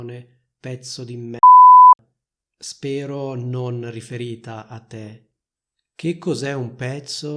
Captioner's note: beep